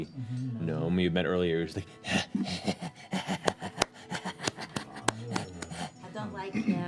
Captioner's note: breathy laugh